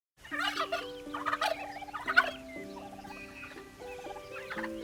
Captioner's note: turkey gobbling; soft, relaxing music